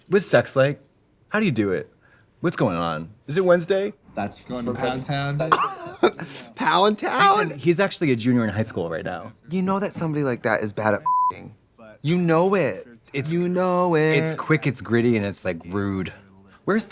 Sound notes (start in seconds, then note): 11.0 beep